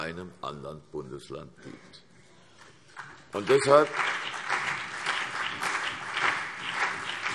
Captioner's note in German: Beifall CDU und BÜNDNIS 90/DIE GRÜNEN